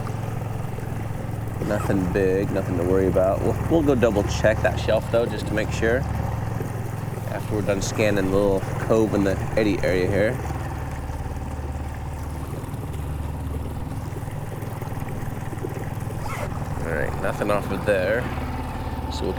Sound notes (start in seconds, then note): 13.0 engine chugging; 13.0 water sloshing